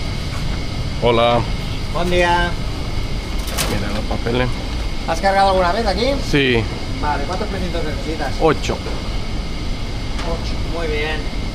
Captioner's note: conversation in Spanish with the loading operator